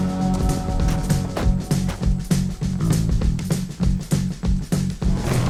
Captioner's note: moody upbeat music; vehicle door slamming